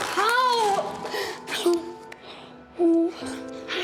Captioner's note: sobs